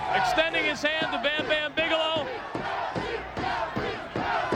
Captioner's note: audience chanting